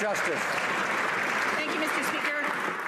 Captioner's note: some Applause